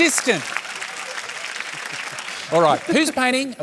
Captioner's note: applause